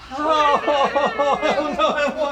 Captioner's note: frantic whining